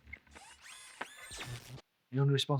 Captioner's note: Kellogg whirring